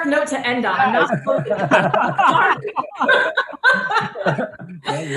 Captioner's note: panelists laughs